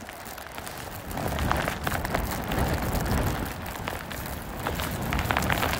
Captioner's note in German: Geräusch von Rascheln und Schnee, der auf die Ausrüstung fällt